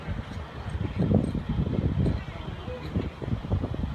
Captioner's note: metal clanging